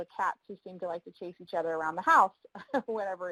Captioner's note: laughs